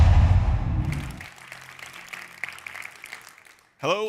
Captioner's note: applause